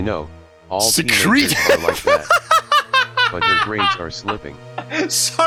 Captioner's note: laughs